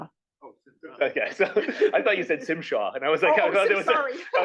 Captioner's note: laugh